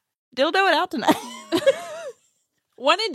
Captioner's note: laughs